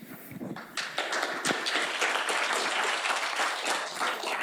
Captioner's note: audience applauding